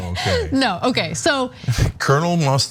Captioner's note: laugh